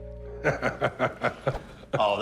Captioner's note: laughing